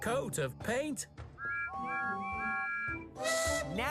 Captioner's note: toot-Toot-Toot!